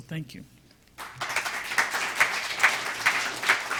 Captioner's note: clapping